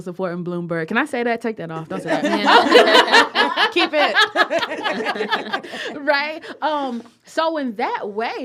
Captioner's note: laughter